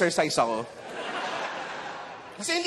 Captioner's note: laughter